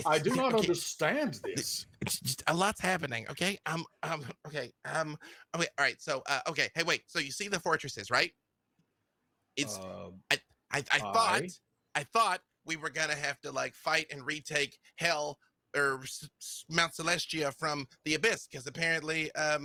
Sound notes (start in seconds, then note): 4.4 stammering